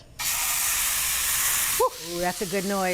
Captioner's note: meat sizzling